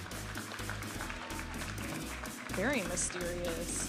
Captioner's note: audience applauding and cheering